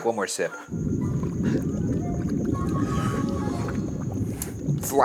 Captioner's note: liquid bubbling